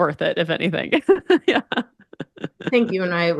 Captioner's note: laughs